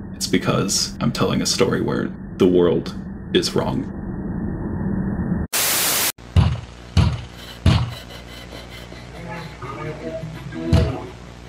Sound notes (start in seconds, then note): 5.5 TV static buzzes; 6.4 man thumping door